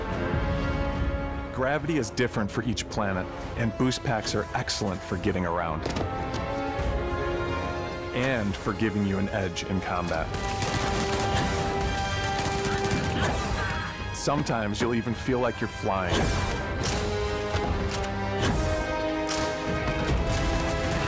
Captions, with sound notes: Gravity is different for each planet and Boost Packs are excellent for getting around and for giving you an edge in combat. [GUN SPATTERING] Sometimes you'll even feel like you're flying. [DRAMATIC MUSIC PLAYING]